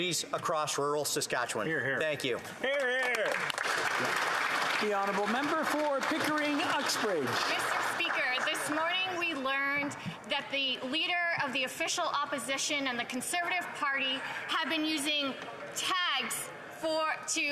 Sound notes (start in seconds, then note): 9.8 some Applause